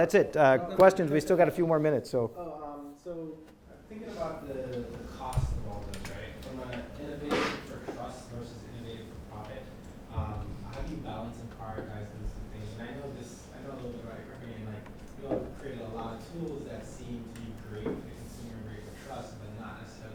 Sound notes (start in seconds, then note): 14.4 speaks faintly